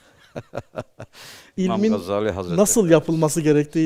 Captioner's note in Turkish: kahkaha